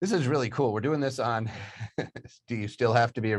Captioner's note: chuckles